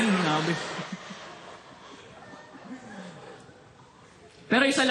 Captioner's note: chuckling